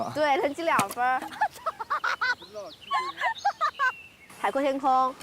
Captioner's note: hahahaha